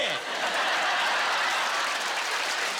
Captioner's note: laughter and applause